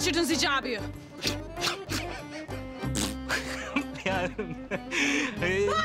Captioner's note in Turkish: Gülüyorlar